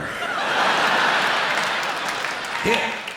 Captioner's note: laughter